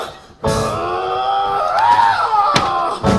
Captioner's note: Doc grunts with effort